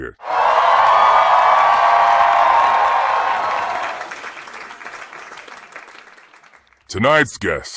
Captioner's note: audience cheering